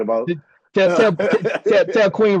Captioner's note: laughing